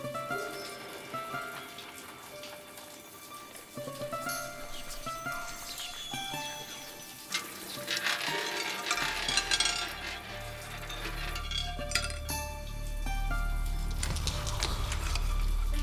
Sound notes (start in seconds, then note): 0.1 mysterious string music; 4.9 ominous whispers; 8.1 marble rattling